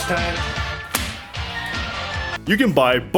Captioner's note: smack